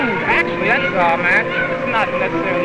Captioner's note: child shouting